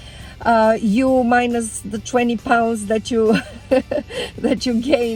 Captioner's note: laughs